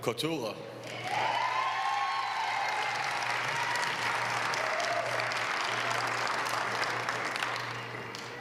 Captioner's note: applause